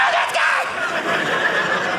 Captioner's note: audience laughing